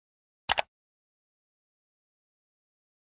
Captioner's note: click